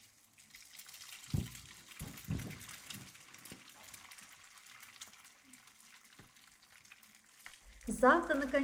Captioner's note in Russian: звуки жарки